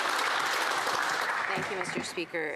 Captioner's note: applause